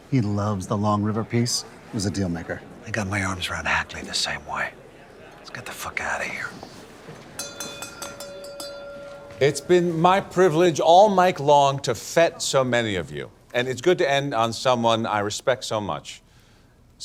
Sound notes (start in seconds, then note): 7.2 object clanging